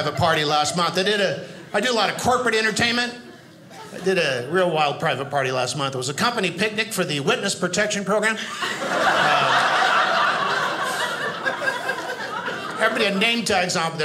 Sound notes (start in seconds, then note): 8.4 audience laughing